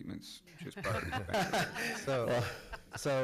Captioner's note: laughs